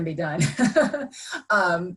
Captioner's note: laughs